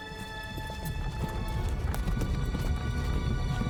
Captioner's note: wagon moving